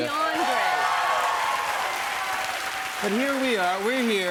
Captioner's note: cheers and applause